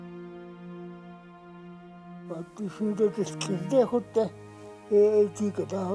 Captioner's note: speaking foreign language